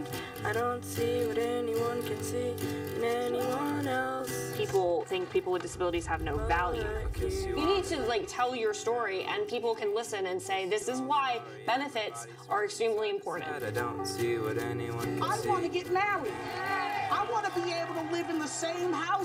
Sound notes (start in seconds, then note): 15.2 crowd